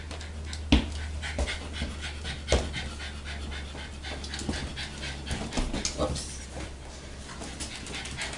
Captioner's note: footsteps